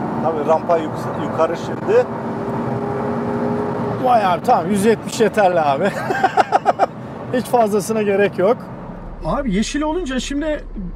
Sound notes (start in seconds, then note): 5.8 laughings